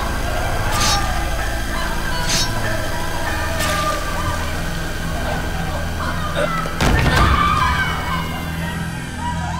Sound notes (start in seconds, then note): 0.8 knife slashing; 6.0 group yelling